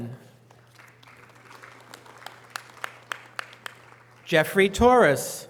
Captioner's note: audience applause